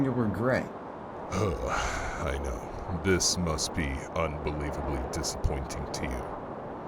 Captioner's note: sigh